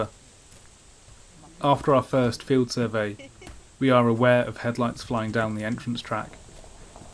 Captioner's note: car tyres crunch on gravel